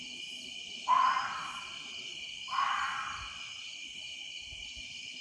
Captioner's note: creature shrieking